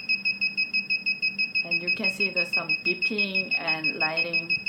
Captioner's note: beeping